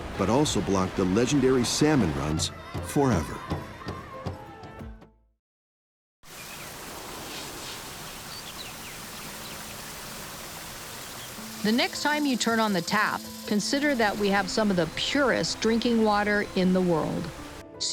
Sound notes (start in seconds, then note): 4.2 water Splashing